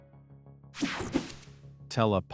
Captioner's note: screen buzzing